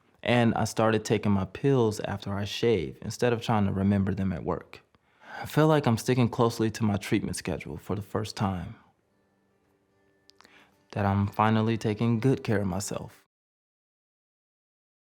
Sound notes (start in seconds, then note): none